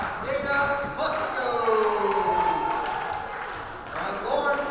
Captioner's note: cheering